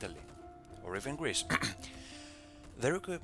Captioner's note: cough